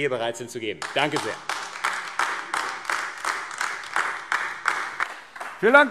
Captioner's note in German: Beifall AfD